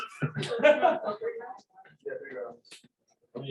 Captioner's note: laughter